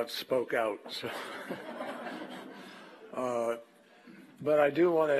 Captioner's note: laughter